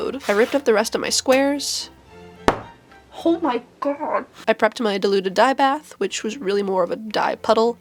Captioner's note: thump